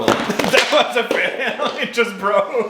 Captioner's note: laughing